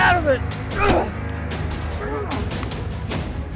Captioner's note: grunting